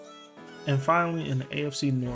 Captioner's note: voiceover